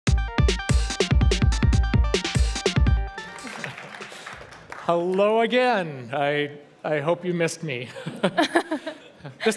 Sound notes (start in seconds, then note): 3.2 applause; 7.9 laughter